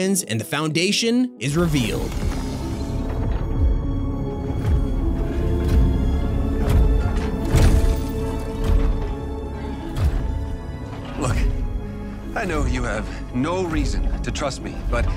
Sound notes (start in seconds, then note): 3.2 soft dramatic music; 5.7 heavy boots thudding on ground